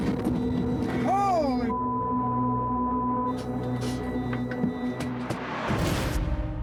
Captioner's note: beep